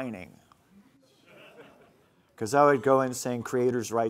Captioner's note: laughing